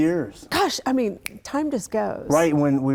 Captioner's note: snaps fingers